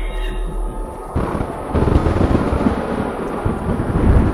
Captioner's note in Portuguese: Trovões